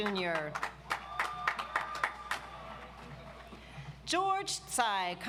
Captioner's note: audience applauds